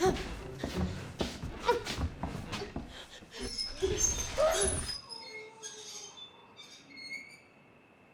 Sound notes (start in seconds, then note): 3.4 wheelchair squeaking